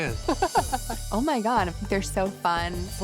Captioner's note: laughing